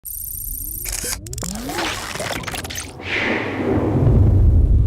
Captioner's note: machine sound effects